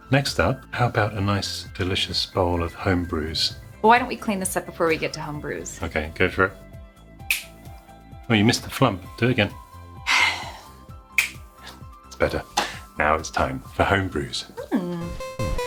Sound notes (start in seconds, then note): 7.2 fingers snapping; 11.1 fingers snapping; 15.0 eight bit music